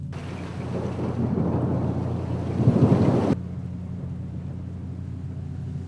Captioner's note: looming music; rain patters; thunder booms